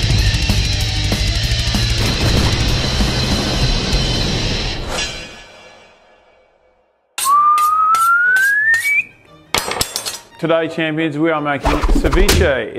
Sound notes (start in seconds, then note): 7.2 whistles